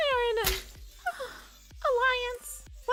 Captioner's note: sigh